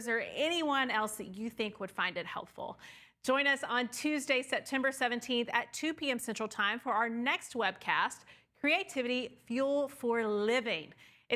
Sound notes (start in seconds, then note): none